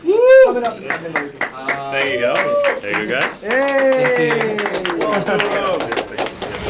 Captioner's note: clapping